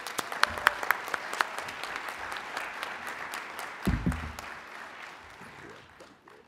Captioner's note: applauding